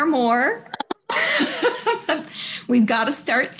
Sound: laughs

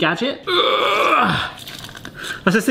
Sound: grunting

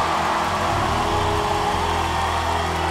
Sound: applause

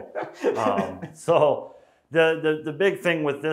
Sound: laughing

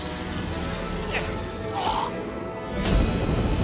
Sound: grunts in surprise

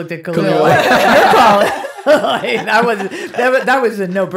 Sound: laughing

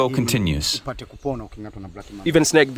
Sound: speaks in foreign language

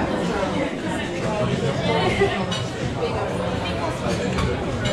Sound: background chatter

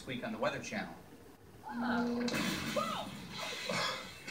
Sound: something explodes; coughing

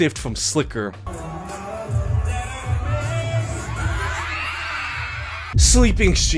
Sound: chill hip-hop music; audience cheering

